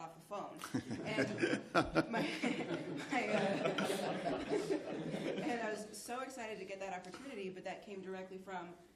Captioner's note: laughter